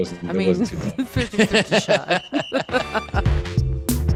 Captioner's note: laughing; upbeat music